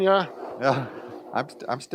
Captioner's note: laughs